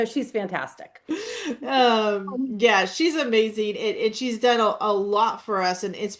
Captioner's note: laughs